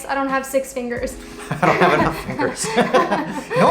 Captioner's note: laughter